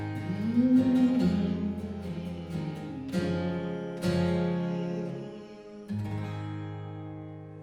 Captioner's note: humming